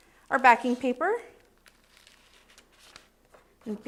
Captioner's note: rustling